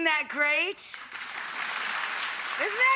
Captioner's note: audience applauding